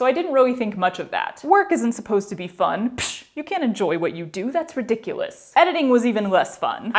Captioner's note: sarcastically